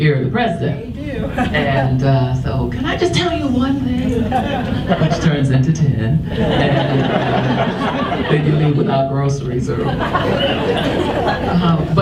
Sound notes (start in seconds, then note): 6.2 audience laughs